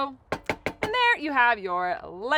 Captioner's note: tapping pan